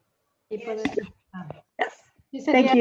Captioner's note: overlapping chatter